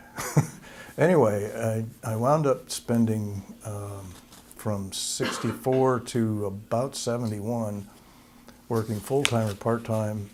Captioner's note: laughter